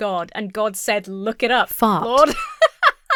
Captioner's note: synthesized Voice; laughs